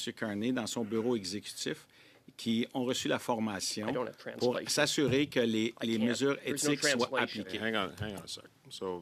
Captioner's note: speaking French